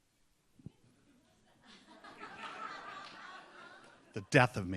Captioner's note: audience laughs